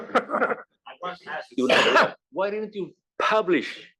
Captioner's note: laugh